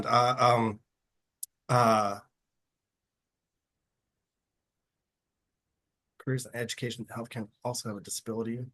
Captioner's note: reading to himself